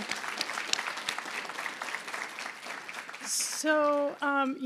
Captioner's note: applause